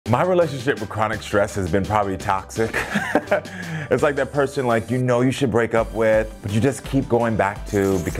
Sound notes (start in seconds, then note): 2.7 Karamo laughing; 4.3 upbeat music